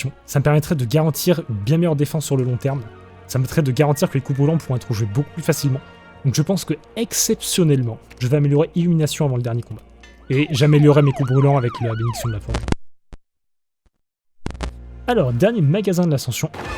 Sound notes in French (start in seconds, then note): 10.2 Sirènes de police